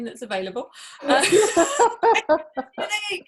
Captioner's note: both laughing